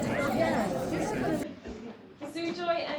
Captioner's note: crowd chattering